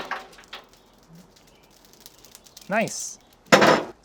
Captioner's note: chimney scrapes; coals clatter; flames crackle; birds chirp